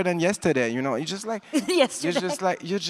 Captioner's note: chuckles